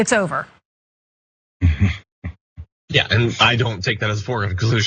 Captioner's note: laugh